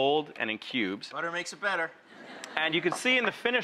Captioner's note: audience laughs